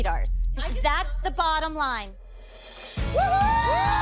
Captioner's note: cheering